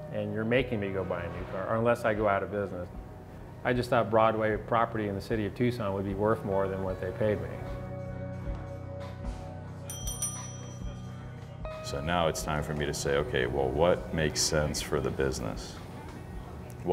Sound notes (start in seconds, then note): 9.8 bell rings